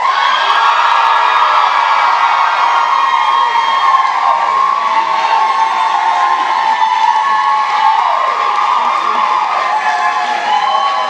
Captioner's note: applause